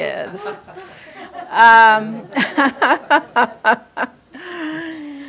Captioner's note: everyone laughing